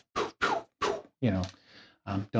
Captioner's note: imitates whooshing